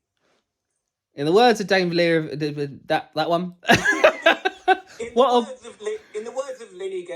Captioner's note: laughs